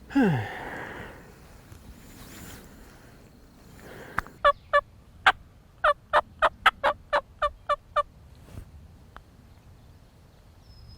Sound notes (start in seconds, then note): 0.0 sigh; 4.4 turkey call